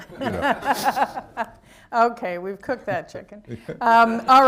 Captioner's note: laughter